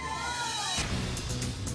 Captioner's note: cheering